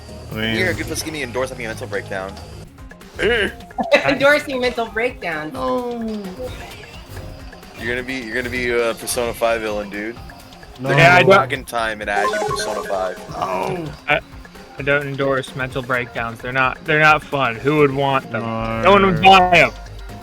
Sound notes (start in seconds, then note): 3.1 scoffs; 5.7 whimpers